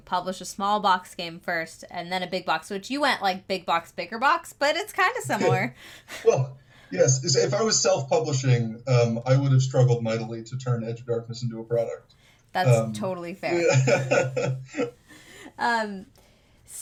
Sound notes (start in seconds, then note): 6.1 chuckles; 13.5 laughs